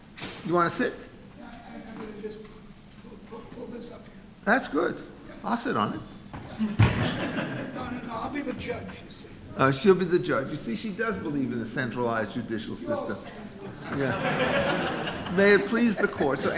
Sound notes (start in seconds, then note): 1.7 woman speaking softly; 6.5 audience laughing; 13.6 laughing drowns out speaker